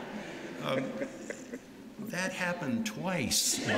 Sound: laughter

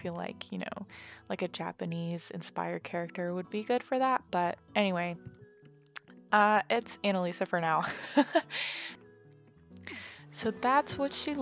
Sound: laugh

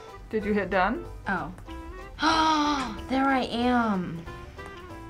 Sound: gasps

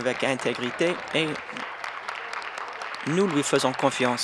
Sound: applause

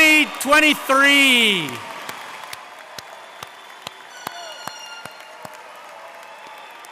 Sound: audience cheering and applauding

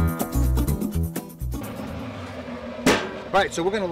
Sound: sound of Smoker

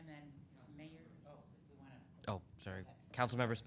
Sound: woman speaking softly

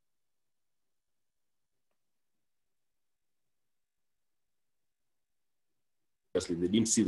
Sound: silence

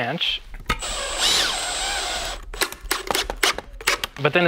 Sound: drill whirring

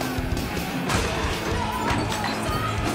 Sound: glass shattering

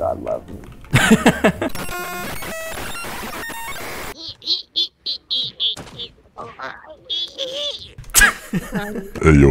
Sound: hacking

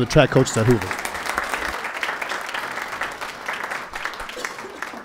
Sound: attendees applauding

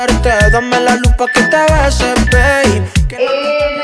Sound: timer beeping

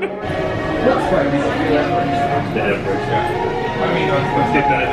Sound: guests chattering

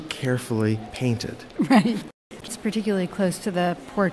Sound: laughs

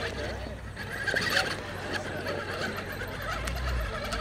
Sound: motor whining

